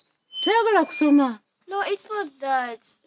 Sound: none

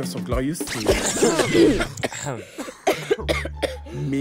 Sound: coughs loudly all together

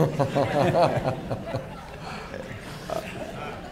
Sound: laughter

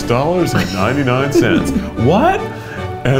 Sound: laughs

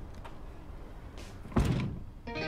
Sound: door closes

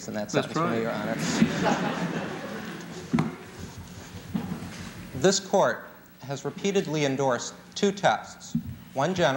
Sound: laughter

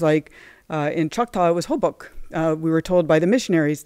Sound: non-english speech

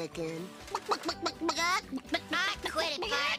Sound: Bart clucking

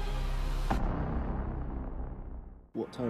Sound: dramatic sound

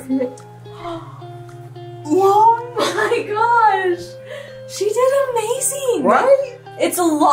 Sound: gasps

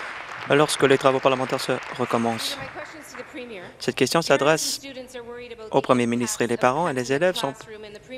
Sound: applause

